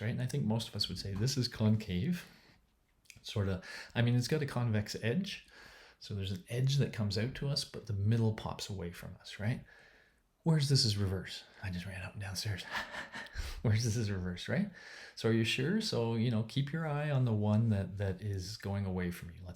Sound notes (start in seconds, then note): 12.6 chuckling; 13.5 panting